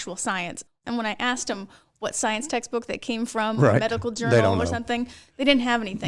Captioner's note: laughs